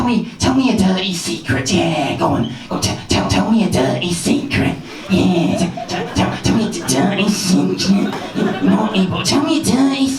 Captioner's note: creepy voice